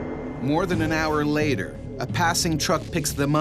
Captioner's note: voiceover